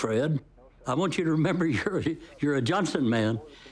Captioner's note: chuckles